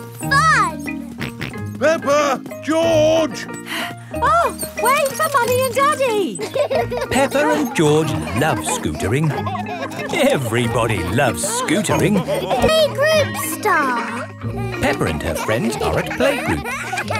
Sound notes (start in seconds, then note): 1.1 george snorts; 4.2 panting